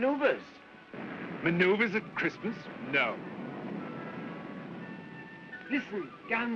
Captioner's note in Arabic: يزمجر في المسافة